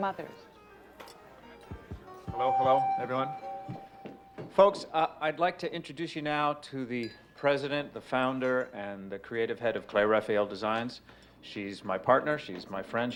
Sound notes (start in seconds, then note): 0.7 tapping on microphone; 2.5 on microphone